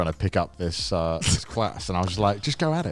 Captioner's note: laughs